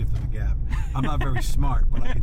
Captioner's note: laughs